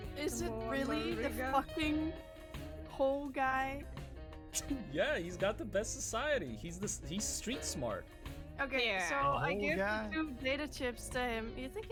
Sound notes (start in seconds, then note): 4.6 laughs